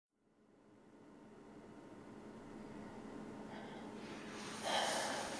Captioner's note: rotating fan ambience throughout; sighs